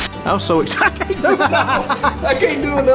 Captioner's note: laughs